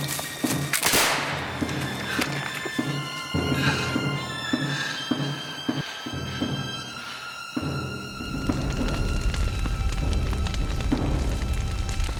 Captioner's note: gunfire